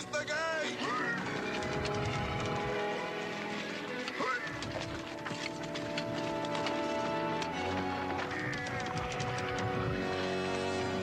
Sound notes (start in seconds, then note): 3.2 dramatic music; 3.2 men groaning